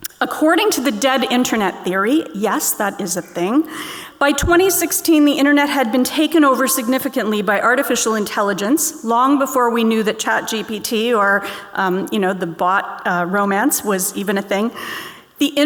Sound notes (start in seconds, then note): none